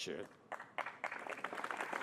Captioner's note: applause